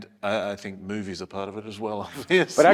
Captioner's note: laugh